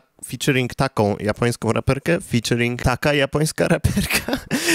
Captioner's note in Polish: śmiech